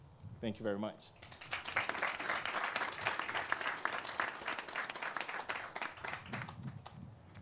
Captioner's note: clapping